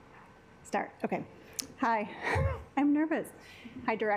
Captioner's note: chuckles